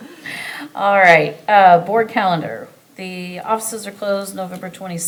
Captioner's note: chuckles